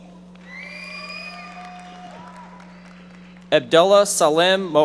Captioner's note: audience members applauding